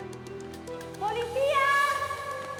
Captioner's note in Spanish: Gritos